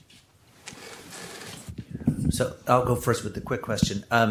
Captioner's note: chair squeaking